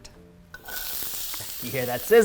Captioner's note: vegetables sizzle